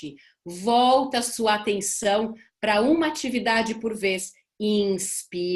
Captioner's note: breathing